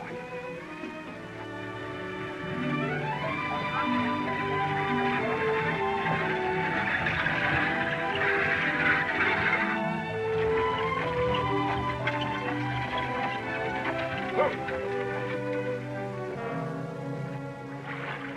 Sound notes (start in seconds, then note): 0.2 classical music; 6.6 wheels creaking